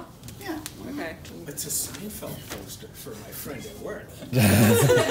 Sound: laughter

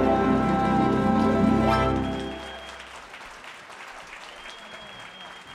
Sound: audience cheers and applauds

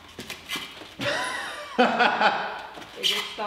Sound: laughs

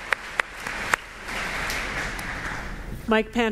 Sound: applause

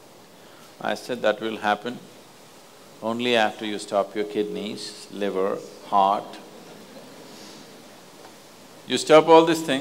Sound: laughter

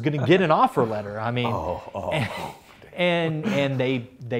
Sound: laughs

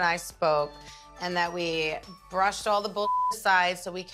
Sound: beep

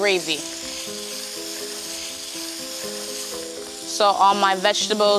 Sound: sizzling

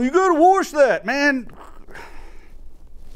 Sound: scoffs

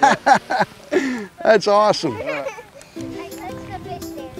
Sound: chuckles

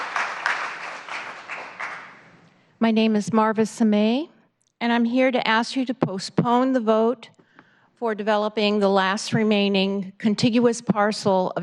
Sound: applause

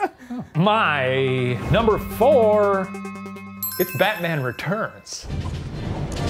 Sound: bell dinging; dramatic classical music

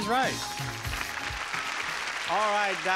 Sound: audience applauding

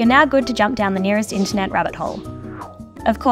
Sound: whoosh

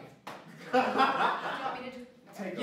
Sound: laughter

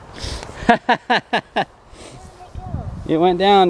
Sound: laughing

